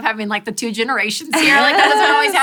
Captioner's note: laughter